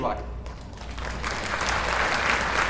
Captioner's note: applause